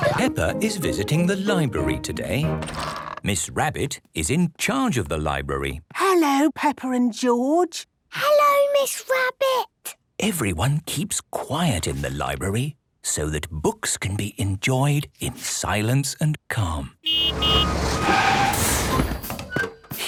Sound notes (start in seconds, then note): 6.0 whispering; 17.0 honking, engine revving